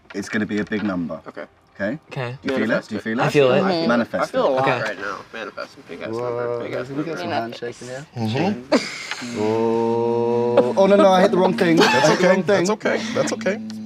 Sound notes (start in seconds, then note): 9.1 everyone hums